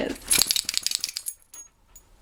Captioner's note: rustling and shaking